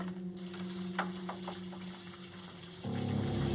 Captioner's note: water running